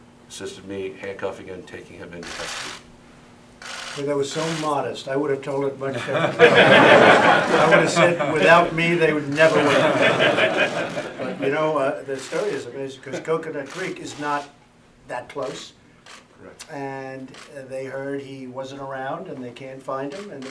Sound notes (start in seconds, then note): 5.9 laughter